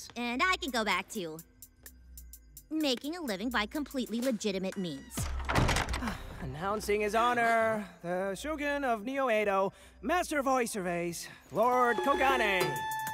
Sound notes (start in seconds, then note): 5.2 door opens